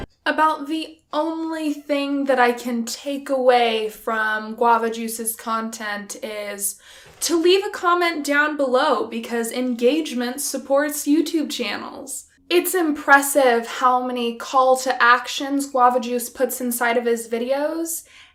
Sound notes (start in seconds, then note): none